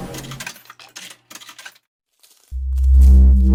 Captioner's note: coins clacking; ominous atmospheric music